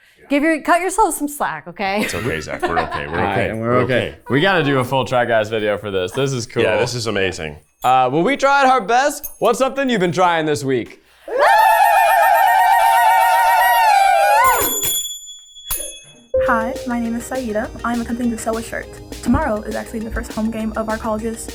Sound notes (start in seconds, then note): 2.0 chuckling; 6.2 chuckling; 9.0 zappers clacking; 14.7 zappers clacking